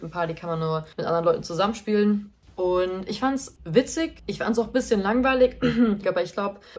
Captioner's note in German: hust